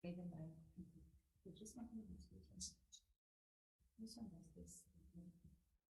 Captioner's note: and assistant whispering